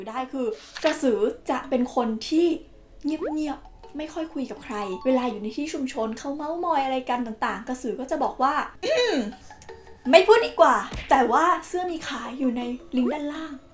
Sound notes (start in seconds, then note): 8.8 ahem